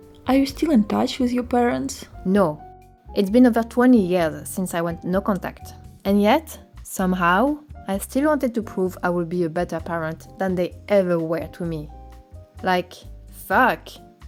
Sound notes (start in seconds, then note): none